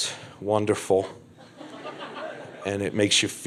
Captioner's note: crowd laughs